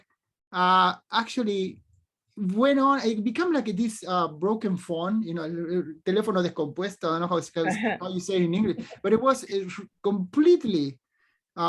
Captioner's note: speaks spanish